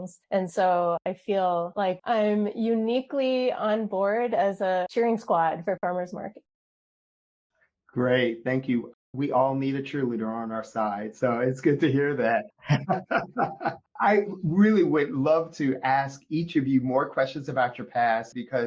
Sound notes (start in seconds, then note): 12.6 laughs